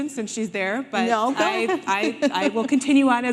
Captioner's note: laughing